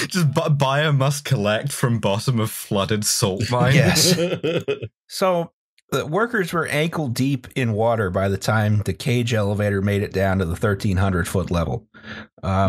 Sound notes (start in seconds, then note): 3.2 laughs